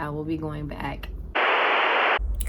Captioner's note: TV Static